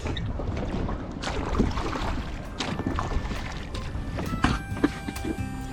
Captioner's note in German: Wasser plätschert leise